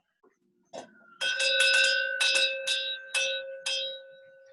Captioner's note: bells and sirens in the background